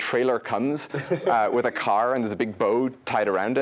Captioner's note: laugh